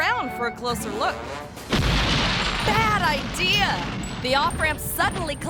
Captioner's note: concrete rumbling